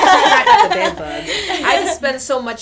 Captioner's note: laughter